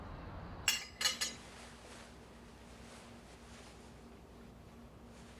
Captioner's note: cutlery clanking